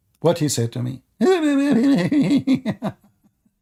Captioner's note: Ketawa